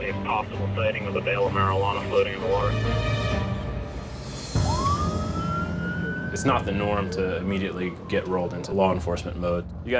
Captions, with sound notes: (siren wailing) - It's not the norm to immediately get rolled into law enforcement mode.